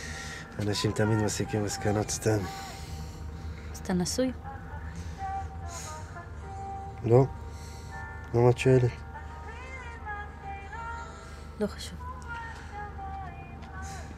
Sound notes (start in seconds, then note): 5.4 fly buzzing; 5.4 sighs; 9.3 fly buzzing